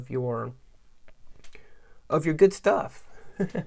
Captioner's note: laughs